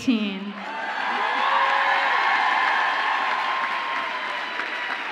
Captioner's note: audience applauds and cheers